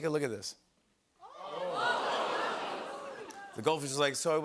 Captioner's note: audience "Ohhs"